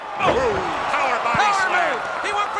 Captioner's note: body thudding